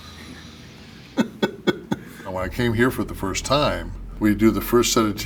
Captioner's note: laugh